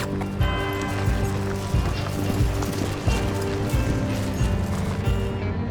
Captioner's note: hoofbeats